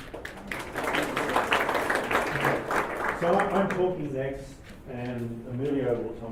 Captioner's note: applause